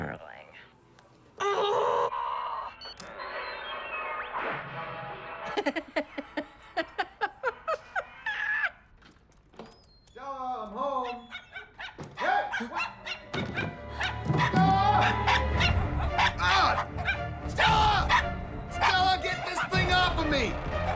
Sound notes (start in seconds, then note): 2.3 tv blaring; 2.8 phone beeps; 5.6 cackles; 12.1 dog starts yapping, mark yelps; 12.6 stumbling, ferocious barking; 14.1 roars; 15.1 barking